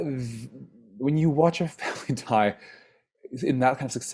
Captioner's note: sighs